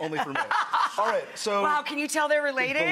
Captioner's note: laughing